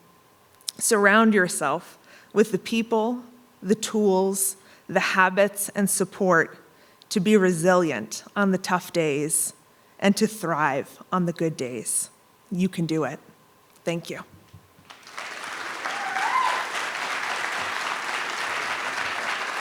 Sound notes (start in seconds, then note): 14.8 audience applauding